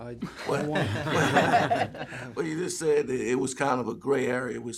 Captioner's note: laughter